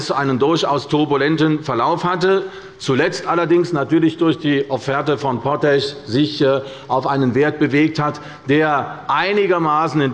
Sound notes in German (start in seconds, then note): none